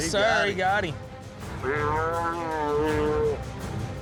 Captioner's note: cow bellowing